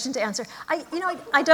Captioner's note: laughter